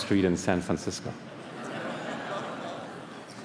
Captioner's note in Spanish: Risas